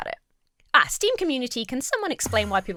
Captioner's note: Enderman wooshes